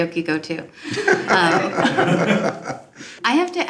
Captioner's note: laughs